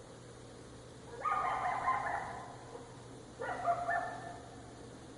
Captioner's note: dog barking